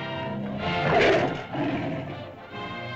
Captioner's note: lizard bellows; suspenseful music